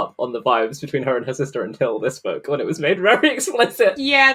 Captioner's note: laughing